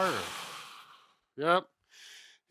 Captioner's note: breathing heavily